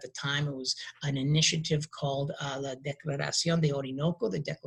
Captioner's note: speaking in a foreign language